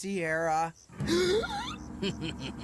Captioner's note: Mike Inhaling; Mal Evil Laughing